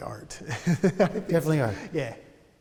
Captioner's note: laughter